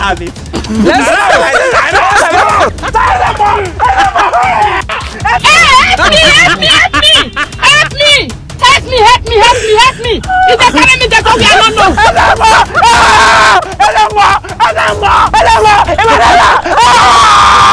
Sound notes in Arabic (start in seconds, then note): 3.6 صرخة من أجل رئيس الكاهن; 11.3 صرخة لرئيس الكاهن; 16.6 بكاء و صراخ